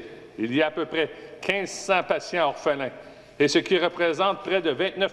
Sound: speaking French

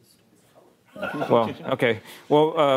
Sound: laughter

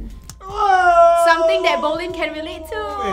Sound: shouts

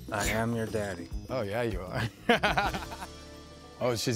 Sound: laughs

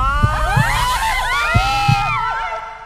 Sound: screams

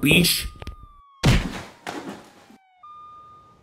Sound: punch and Thud

